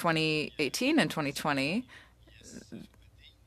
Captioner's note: speaking French